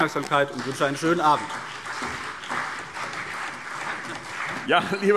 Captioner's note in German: Beifall CDU und BÜNDNIS 90/DIE GRÜNEN